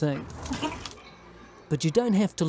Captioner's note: retches